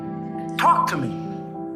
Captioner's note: shouting; voiceover